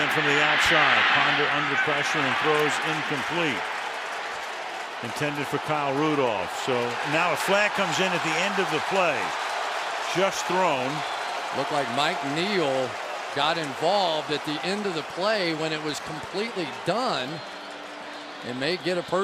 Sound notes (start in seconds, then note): 9.6 cheering